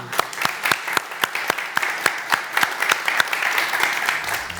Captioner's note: applause